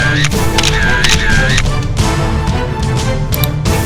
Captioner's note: dramatic music; camera snapping; dramatic music